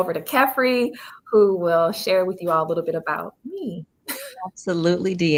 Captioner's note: chuckles